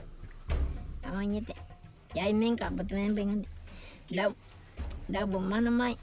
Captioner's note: speaking in foreign language